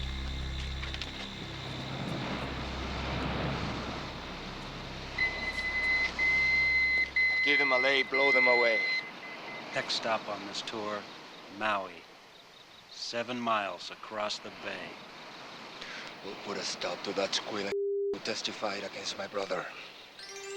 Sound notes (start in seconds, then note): 2.1 waves crashing; 5.2 pager beeping; 20.1 gentle music